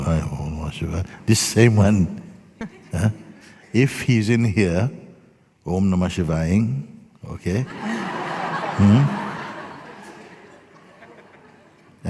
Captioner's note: laughter